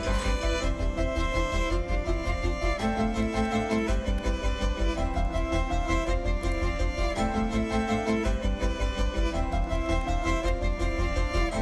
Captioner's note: upbeat music; keyboard clacking